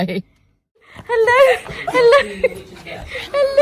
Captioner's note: Ollie is whining; chuckles